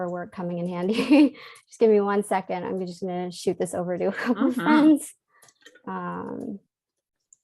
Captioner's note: keyboard clicks